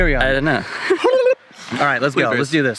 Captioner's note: silly noise